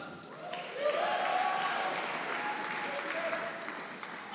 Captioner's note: audience applauding